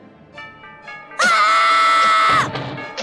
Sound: screaming

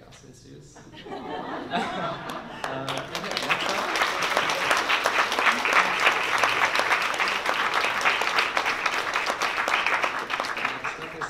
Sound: laughter and applause

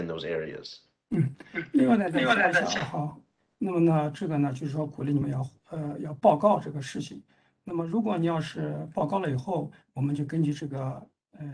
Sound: speaks in Mandarin

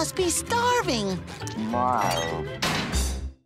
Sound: groaning

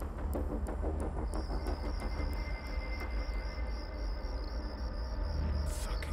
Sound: crickets chirping; light dramatic music

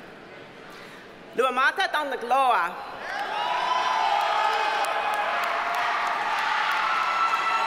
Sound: audience cheers and applauds

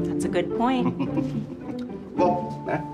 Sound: Saul laughs

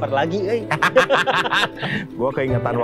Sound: laughs

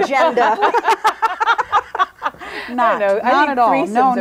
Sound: group laughs; overlapping chattering

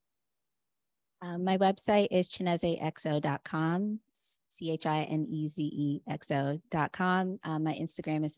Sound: Chineze

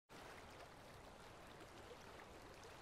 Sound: water sounds playing

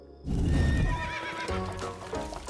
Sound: horse neighing

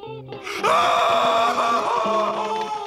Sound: screaming

